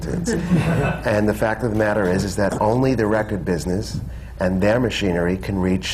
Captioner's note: laughter